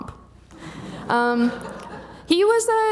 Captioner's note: audience laughing